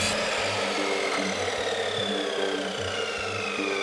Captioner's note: machines whirring